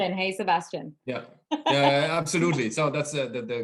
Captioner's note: laughing